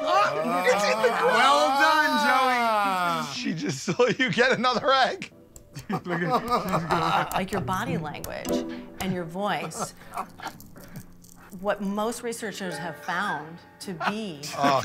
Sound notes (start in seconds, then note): 5.5 shell cracking